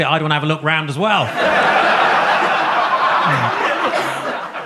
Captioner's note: audience laughs